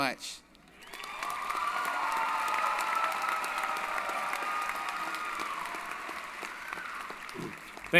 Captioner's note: applause & Cheering